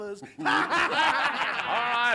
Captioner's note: laugh